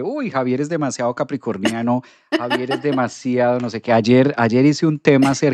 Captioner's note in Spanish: risas